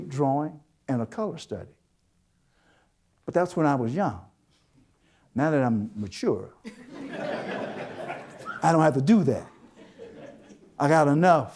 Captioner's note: audience Laughter